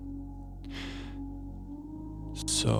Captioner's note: sighs